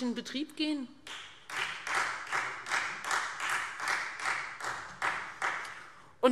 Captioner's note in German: Beifall Freie Demokraten